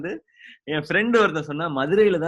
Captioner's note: laughs